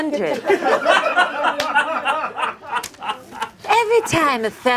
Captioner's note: audience laughing